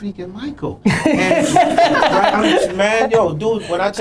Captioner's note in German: Lachen